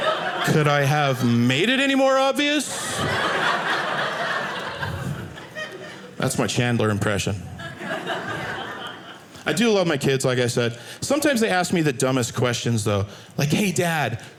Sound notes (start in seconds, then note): 0.0 audience laughing; 2.6 audience laughing